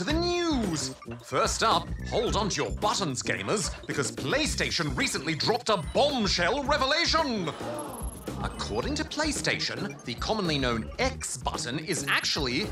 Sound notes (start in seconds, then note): 7.4 audience: gasp!